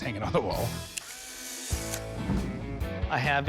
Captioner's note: camera shutter clicks